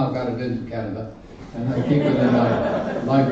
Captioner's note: laughter